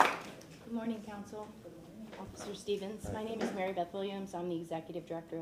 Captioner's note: applause